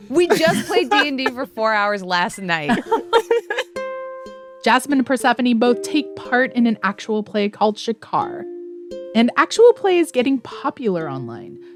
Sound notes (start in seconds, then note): 2.4 laughter